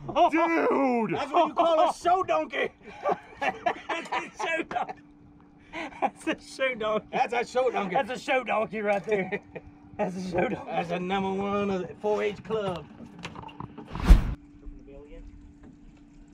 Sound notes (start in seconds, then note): 2.8 laughing